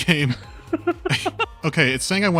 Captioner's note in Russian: смех